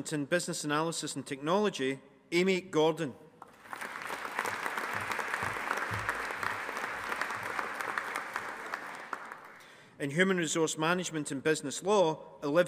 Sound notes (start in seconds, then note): 3.4 audience applauding